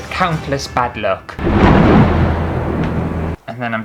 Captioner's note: thunder clash!!!!!